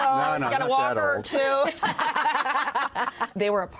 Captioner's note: laughter